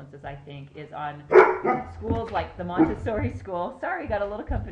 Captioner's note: barking